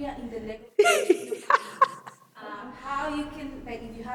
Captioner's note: laughing